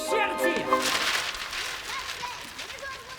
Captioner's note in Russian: шелест бумаги